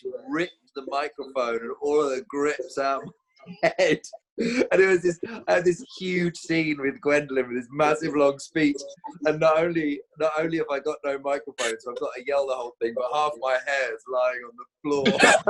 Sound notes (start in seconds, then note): 5.0 laughs; 14.9 all laughing